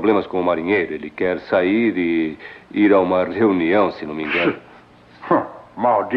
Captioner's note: scoffs